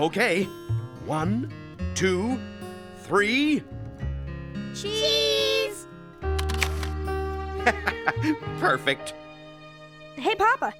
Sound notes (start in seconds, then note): 6.3 camera snapping; 7.6 laughing